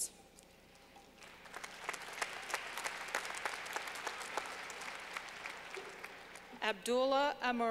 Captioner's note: clapping